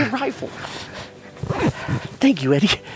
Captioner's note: zipper sliding